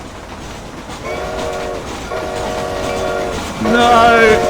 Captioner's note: trains Whistles